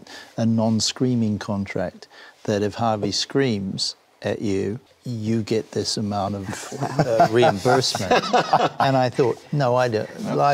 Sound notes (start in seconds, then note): 6.5 laughter